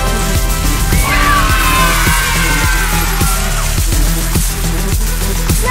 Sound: kids cheers

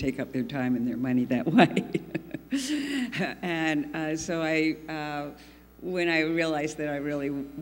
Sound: laughs

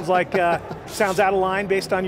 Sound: laughing

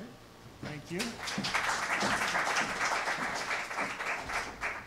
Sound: applause

